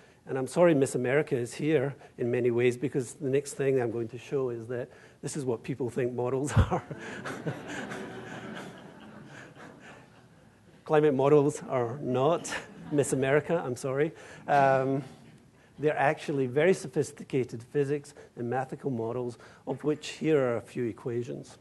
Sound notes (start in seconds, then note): 6.5 laughter